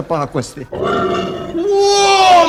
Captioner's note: grunting of a pig